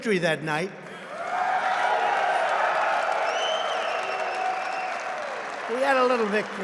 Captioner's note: applause